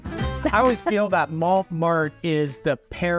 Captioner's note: laughs